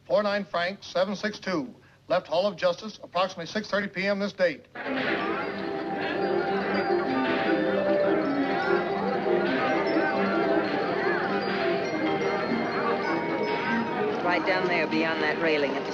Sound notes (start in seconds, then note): 5.1 cheerful music; 5.1 people chattering